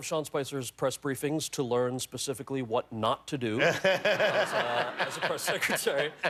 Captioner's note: laughter